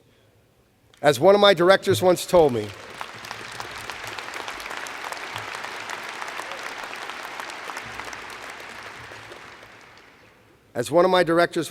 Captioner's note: applause